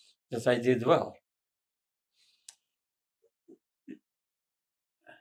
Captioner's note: pauses 6 seconds